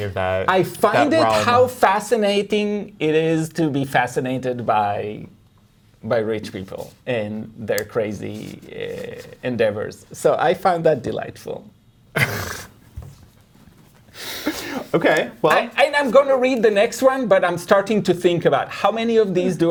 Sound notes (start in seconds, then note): 12.2 chuckling